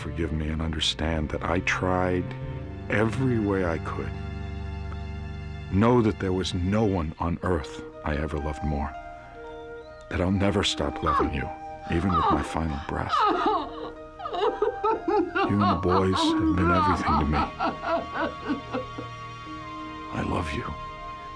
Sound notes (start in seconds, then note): 11.8 sobbing